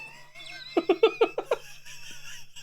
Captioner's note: laughing